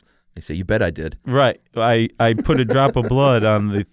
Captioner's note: laughs